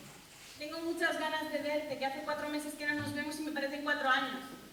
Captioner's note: Spanish